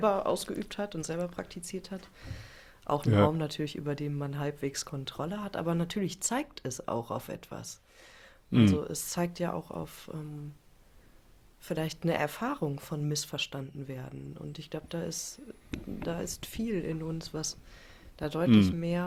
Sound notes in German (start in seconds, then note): 8.5 räuspern